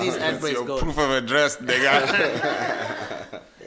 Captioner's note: everybody laughs